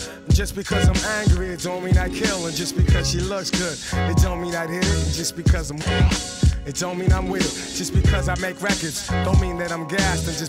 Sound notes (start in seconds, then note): 4.2 record scratching